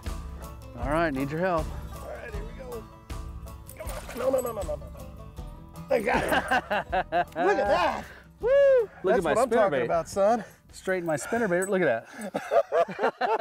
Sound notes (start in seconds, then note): 6.0 laughs; 12.1 laughter